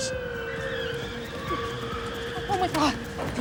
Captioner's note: tires screech